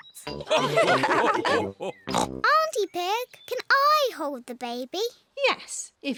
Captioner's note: all laugh